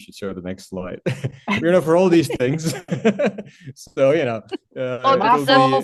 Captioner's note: laughs